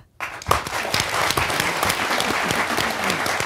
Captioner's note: applause